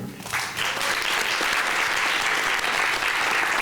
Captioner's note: clapping